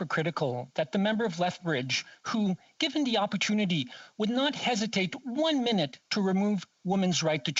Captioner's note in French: voix de l'interprète